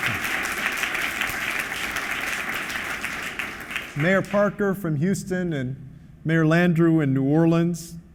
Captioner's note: applause